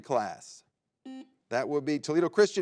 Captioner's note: buzzer beeps